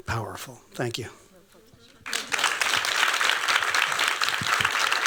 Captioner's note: applause